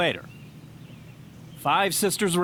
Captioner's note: birds chirping